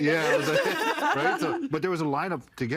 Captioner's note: everyone laughing